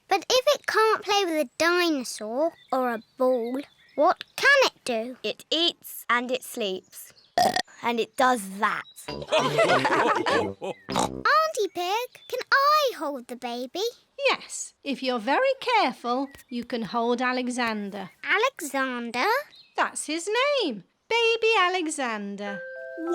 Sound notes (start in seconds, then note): 7.4 burps; 9.1 all laugh